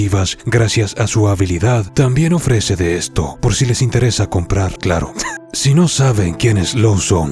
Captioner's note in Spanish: risas